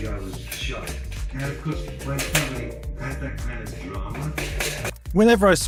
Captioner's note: hammering metal with a podcast in the background